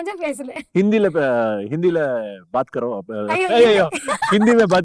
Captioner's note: getting flustered